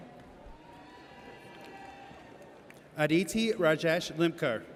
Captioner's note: audience cheers